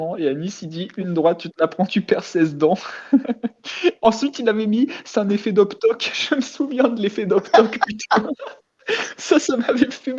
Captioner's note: laugh